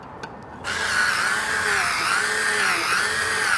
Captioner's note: whirring